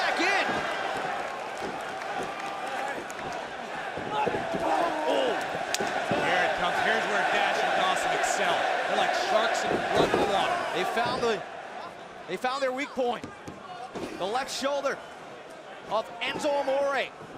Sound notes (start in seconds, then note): 6.7 crowd cheering; 7.4 crowd chatter